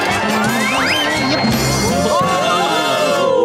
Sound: ooo-ing

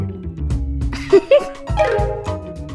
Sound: laughing

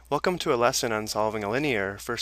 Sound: voiceover

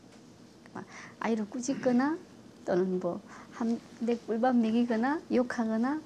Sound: speaks foreign language

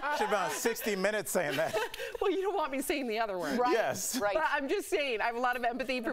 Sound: laughter

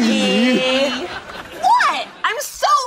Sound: laugh track

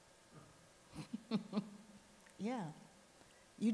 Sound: sighs; laughs

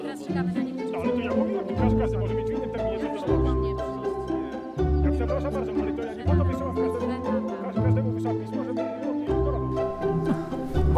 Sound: more arguing in the background

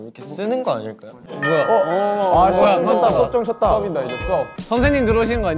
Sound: school bell ringing♫

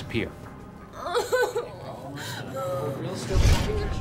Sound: sobbing

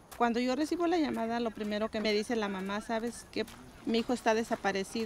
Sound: woman speaks Spanish

